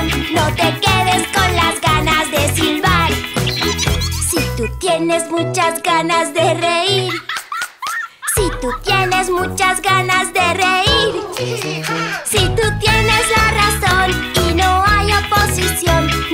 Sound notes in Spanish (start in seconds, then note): 6.9 Risas; 11.5 Risas